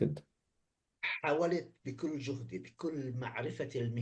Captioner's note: speaking arabic